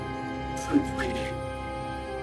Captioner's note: bit-crushed